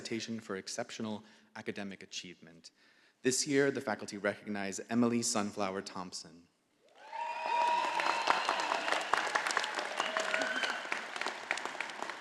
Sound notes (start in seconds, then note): 6.9 all applauding